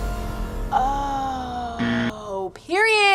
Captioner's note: tense music; buzzer rings